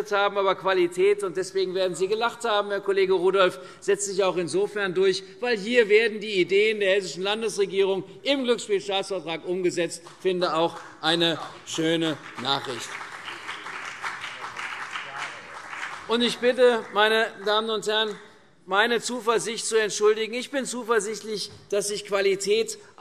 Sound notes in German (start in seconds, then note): 11.4 Beifall CDU und BÜNDNIS 90/DIE GRÜNEN